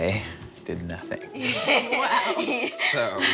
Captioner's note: chuckles